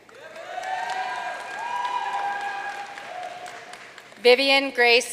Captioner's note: audience cheering and applauding